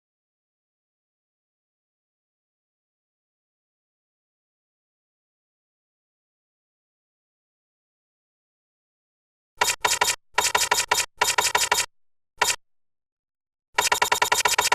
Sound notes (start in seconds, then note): 9.9 typewriter keys typing